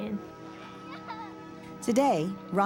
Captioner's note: children laughing